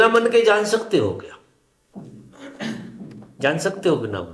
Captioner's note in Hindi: गला साफ़ करने की आवाज़